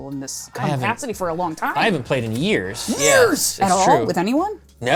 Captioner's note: strained